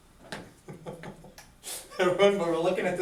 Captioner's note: chuckles